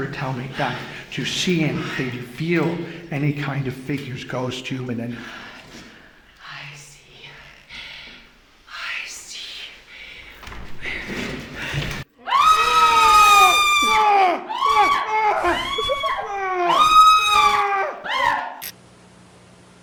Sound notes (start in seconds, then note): 12.2 both screaming; 15.7 couple giggles; 17.0 both screaming